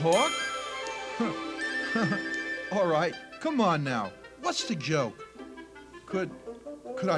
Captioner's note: laughs